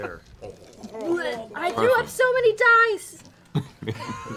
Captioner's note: retching noise